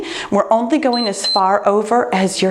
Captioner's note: timer beeps